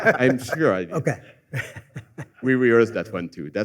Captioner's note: laughter